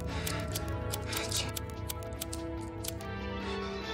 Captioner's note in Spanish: ruidos con el encendedor